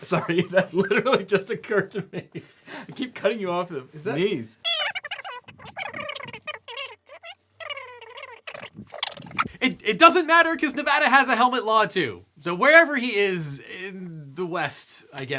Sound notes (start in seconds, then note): 4.6 tape rewinding